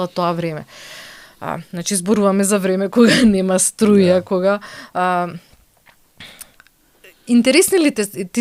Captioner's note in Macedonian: прочистување грло